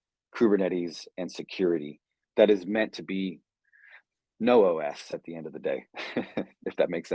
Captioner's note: chuckles